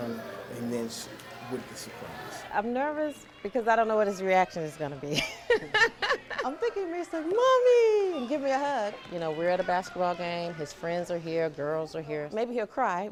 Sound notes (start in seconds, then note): 7.3 laughter